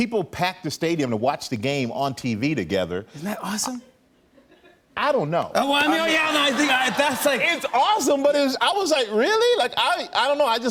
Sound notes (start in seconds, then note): 4.2 laughter